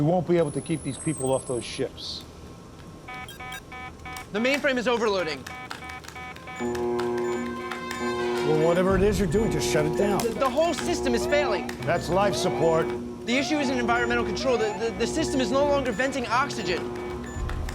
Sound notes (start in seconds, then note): 7.2 alarm blaring